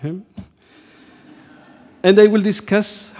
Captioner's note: audience laughs